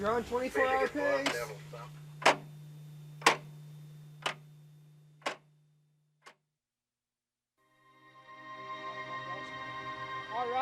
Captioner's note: clock